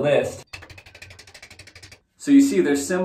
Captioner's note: tongue clicking